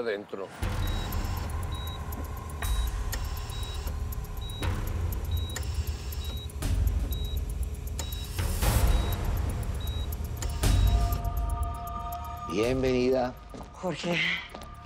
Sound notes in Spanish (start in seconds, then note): 3.7 Bip de los monitores